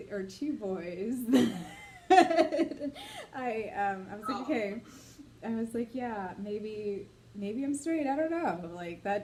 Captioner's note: laughs